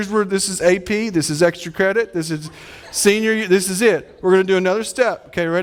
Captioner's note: audience laughing